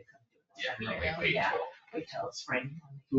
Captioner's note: people chatter